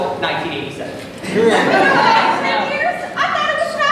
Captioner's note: laughter in crowd